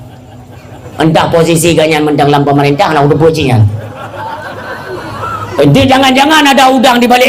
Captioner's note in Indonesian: tertawa